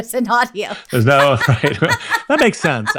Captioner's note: laughs